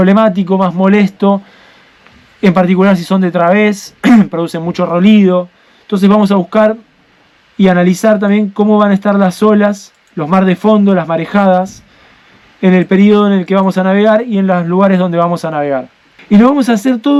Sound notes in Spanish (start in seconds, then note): 4.0 carraspeo